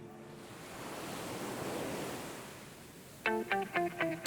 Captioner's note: ocean waves lapping; energetic upbeat music